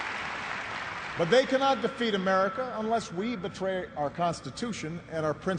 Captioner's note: applause